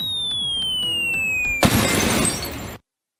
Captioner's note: descending whirr; crash